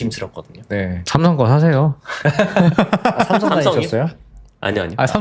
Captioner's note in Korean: 웃음